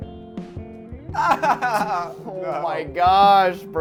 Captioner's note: laughing